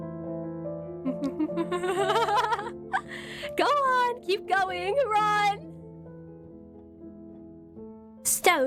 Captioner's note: laughs